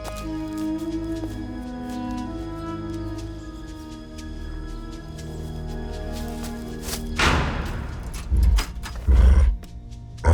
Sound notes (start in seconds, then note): 7.2 door clangs, rattles